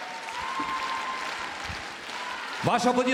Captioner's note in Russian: аплодисменты